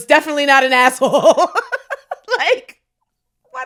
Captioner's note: both laughing